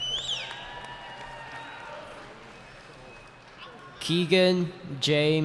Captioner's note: cheering